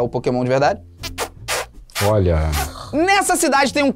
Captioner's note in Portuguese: sons com a boca